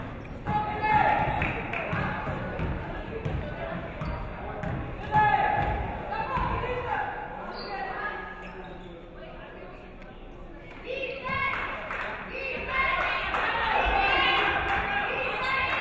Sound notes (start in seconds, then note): 11.1 audience cheering